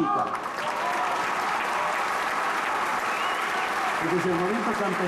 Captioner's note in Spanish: Aplausos